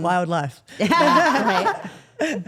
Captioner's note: group laughs; laughs